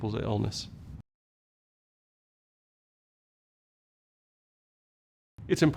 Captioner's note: no audio